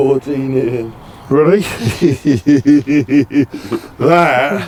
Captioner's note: laughs